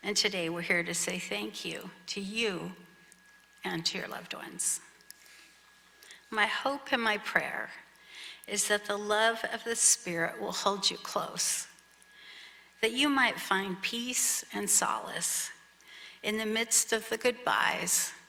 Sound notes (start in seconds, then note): none